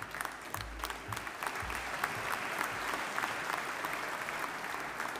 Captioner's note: audience applauding